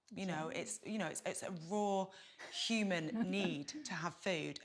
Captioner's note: chuckles